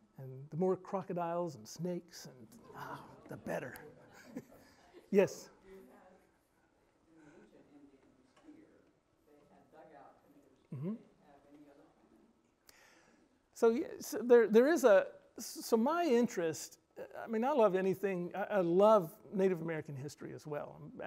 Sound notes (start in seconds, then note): 7.1 murmurs